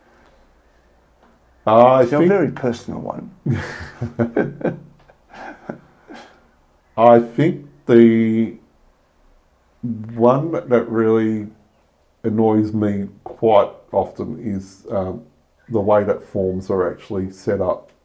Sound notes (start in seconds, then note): 3.4 laugh